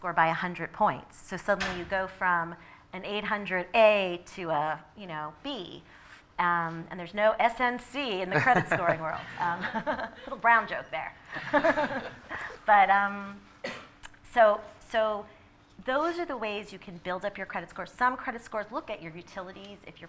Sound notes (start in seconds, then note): 11.3 laughter